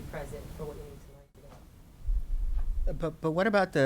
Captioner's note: voice muffled